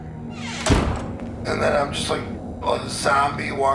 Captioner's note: slam